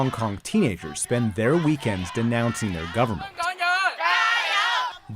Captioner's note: protesting in chinese